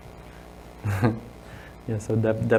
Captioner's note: chuckles